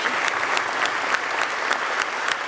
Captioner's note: applause